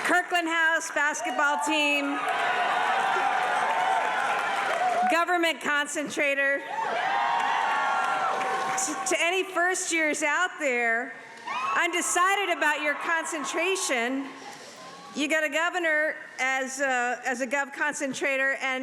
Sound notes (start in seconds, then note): 1.1 audience cheering; 6.7 audience cheering